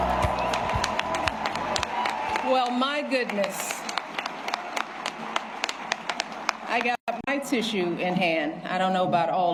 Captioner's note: applause; cheers and applause